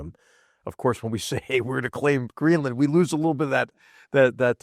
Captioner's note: laugh